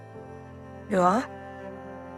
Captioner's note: voiceover